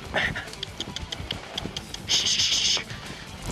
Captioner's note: clicks tongue; hisses; grunts